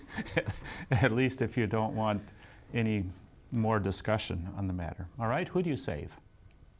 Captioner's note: laughs